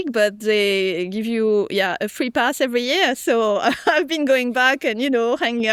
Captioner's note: chuckles